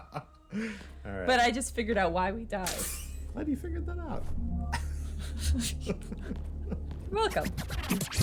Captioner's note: laughter